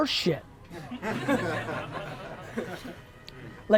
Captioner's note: crowd laughs